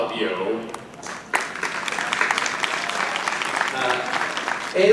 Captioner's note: audience applauding